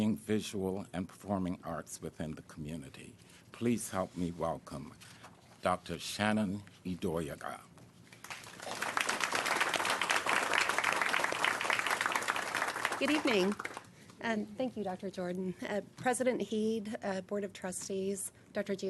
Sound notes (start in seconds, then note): 10.6 applause